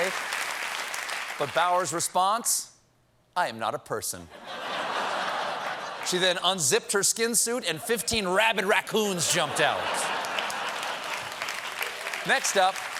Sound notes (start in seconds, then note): 0.0 cheers and applause; 4.3 laughter; 10.0 applause